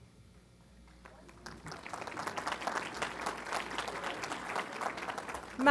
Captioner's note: applause